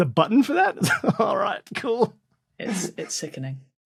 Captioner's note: laughs